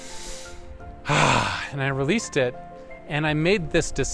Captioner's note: exhaling; inhaling